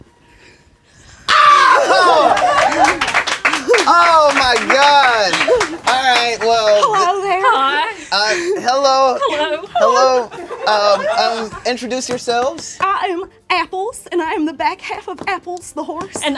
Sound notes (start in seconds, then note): 1.3 screams; 2.1 applause